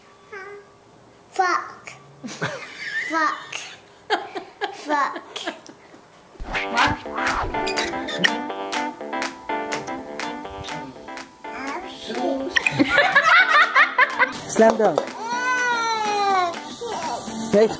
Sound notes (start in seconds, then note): 2.2 laughter; 6.7 upbeat music; 12.6 laughter; 14.5 voiceover